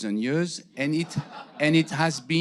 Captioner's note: audience laughing